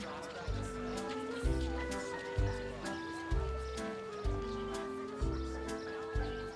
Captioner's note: people chattering; soft jaunty music